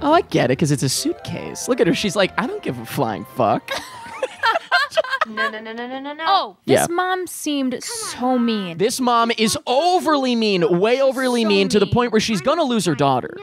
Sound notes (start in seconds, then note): 3.7 both laughing